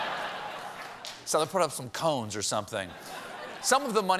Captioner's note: laughter